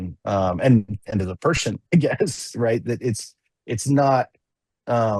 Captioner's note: laughs